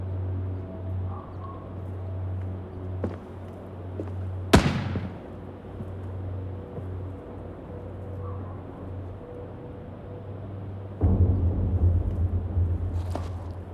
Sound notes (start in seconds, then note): 4.5 gunshot